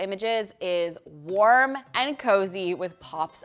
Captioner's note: mouse clicking